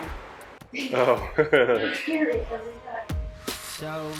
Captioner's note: chuckling